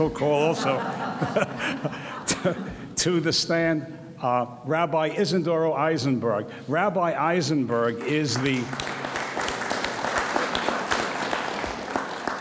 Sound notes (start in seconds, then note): 0.3 audience laughs; 0.6 laughs; 7.9 audience applauds